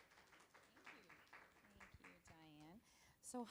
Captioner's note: applause